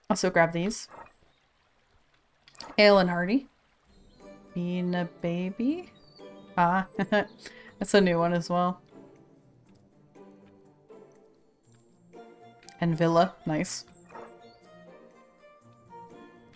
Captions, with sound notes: Also grab these. Ale and Hardy. Bee Neebaby... Ah *laughs* That's a new one as well. Anvilla, nice!